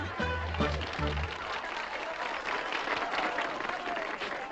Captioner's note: people applauding